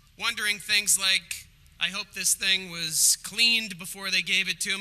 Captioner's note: none